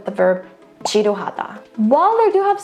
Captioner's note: speaks in Korean